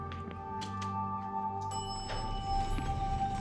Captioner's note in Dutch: lift pingt